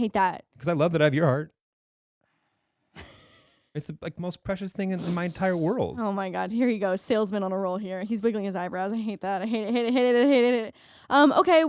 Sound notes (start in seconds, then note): 4.5 laughing